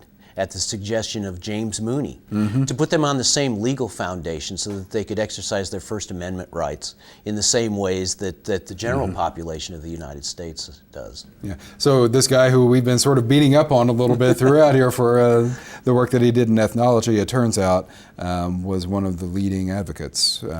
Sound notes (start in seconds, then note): 14.0 laughs